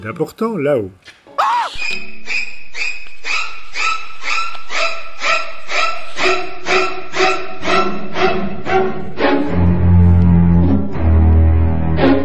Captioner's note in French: Cri, Musique stressante dramatique